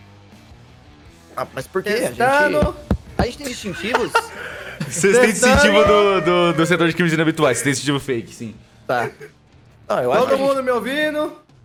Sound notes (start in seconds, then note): 3.6 laughs